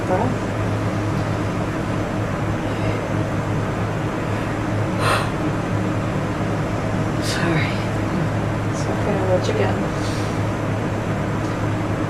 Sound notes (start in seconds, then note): 5.0 yawns